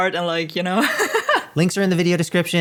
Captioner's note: laughing